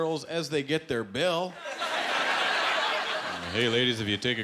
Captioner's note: laughter